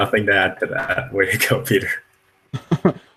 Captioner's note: laughs